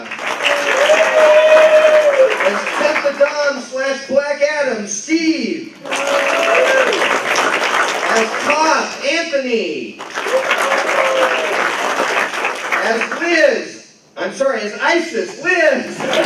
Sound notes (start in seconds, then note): 0.0 applause; 9.9 applause